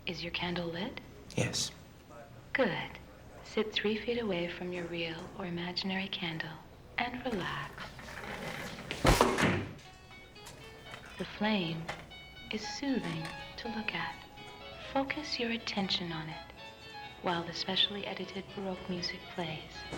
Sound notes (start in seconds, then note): 9.1 heavy thud